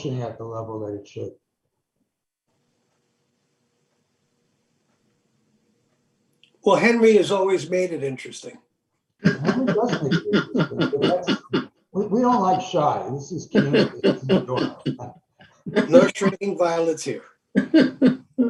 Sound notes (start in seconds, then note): 9.2 chuckles; 14.3 chuckles